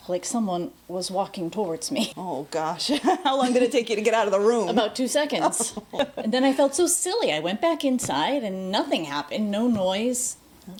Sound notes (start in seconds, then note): 2.8 laughs